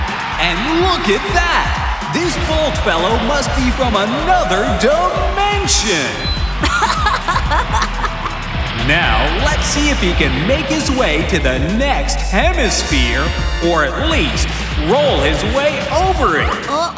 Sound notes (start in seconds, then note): 0.3 cheering; 6.5 laughing